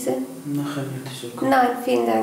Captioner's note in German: Klient spricht Dari